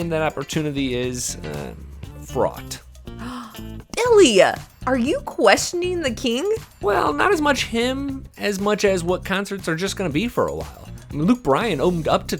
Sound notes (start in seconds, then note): 3.2 gasp